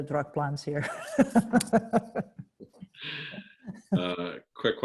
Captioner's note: laughs lightly